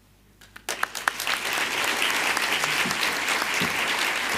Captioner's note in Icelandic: fagnaðarlæti